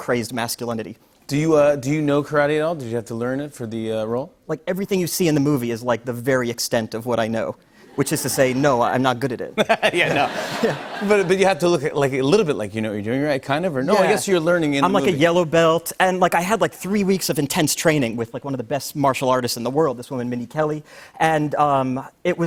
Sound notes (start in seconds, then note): 7.9 laughter